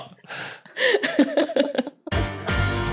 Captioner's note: giggle